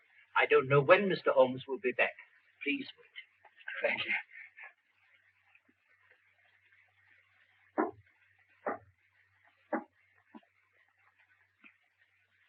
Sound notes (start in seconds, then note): 7.8 knocking on door